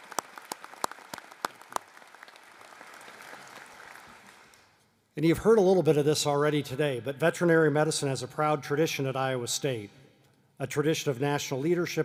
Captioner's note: applause